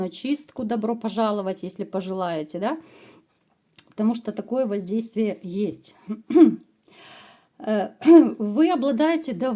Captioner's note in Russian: откашливается